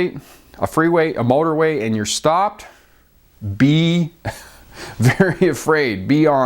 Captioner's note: scoffs